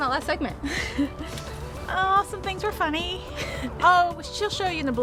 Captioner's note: laughs